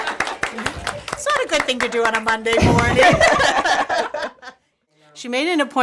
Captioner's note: laughs